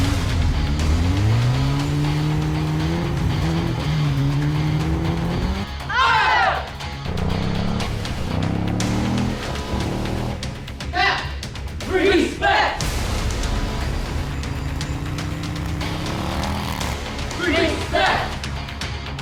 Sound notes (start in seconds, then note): 0.0 motorcycle engine revs; 0.0 slow rock music continues; 6.2 group speaking in foreign language; 7.0 motorcycle engine revs; 12.8 slow rock music continues; 13.1 motorcycle engine revs